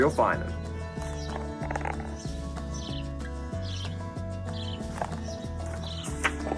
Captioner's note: birds chirp; upbeat music